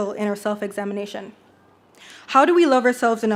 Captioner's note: none